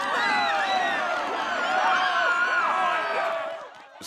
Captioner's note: screaming; all clamoring